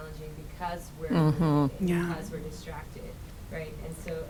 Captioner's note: voice muffled